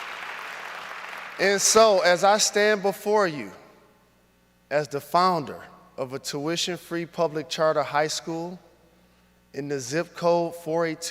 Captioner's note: applause